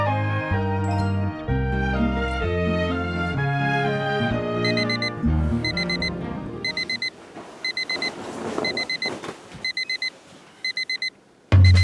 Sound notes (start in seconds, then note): 1.5 orchestral music; 6.6 alarm ringing; 8.5 alarm ringing; 11.6 cheerful upbeat music begins